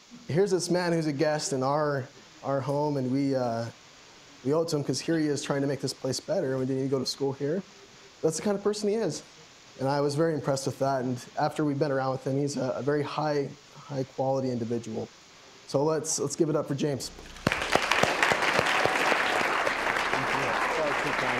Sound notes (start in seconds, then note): 17.2 applause